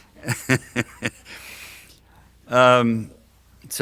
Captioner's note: laughs